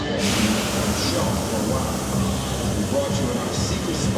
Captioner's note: muttering